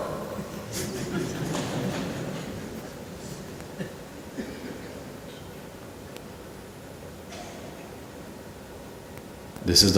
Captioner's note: laughter